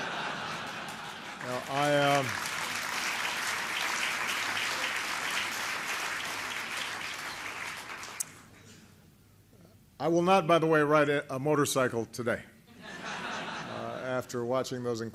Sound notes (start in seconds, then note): 1.7 laughter and applause; 12.7 laughter